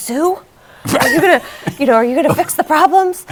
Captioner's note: laughter